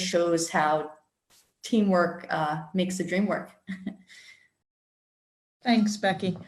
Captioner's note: chuckles